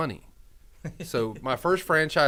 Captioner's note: laughs